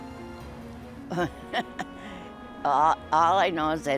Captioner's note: derisive laugh